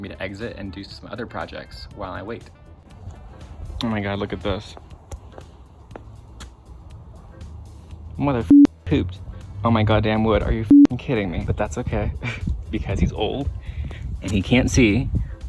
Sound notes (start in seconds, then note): 8.4 beep; 10.6 beep